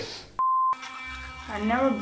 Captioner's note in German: Piepton